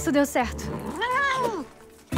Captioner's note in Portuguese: filhote bramando